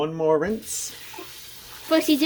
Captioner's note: water sounds